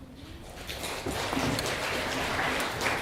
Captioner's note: clapping